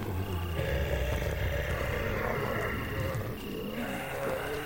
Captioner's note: zombies growling